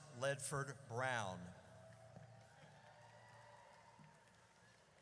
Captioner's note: audience cheers